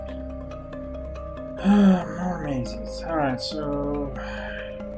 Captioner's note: sighs